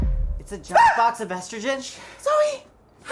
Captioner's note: screams